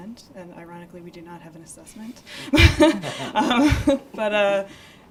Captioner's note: laughs